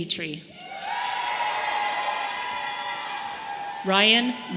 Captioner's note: audience applauding